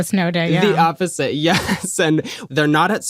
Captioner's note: chuckles